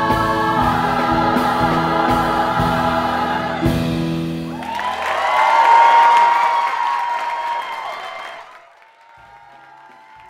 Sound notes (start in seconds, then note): 4.5 applause